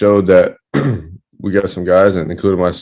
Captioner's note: clears throat